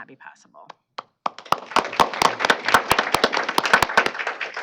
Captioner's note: applause